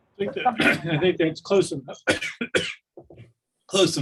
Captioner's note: coughing